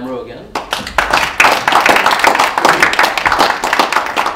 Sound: audience applauding

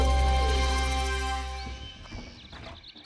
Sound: birds chirping

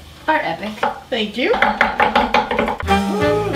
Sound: knife chops; funky music

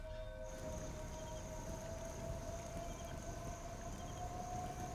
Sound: crickets chirping; suspenseful music

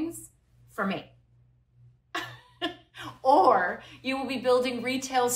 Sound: laughter

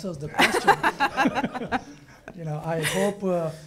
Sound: laughing

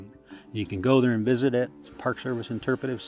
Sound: steam locomotive

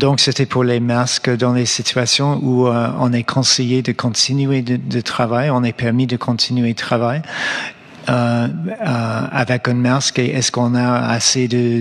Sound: speaking French

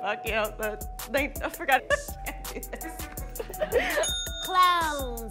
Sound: laughs

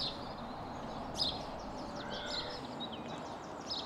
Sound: birds chirping

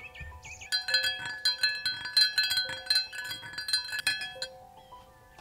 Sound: spoon clinks

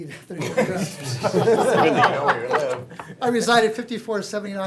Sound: laughing

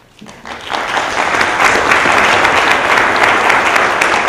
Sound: audience applauding

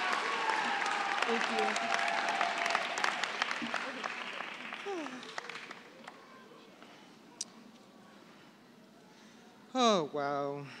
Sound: applause

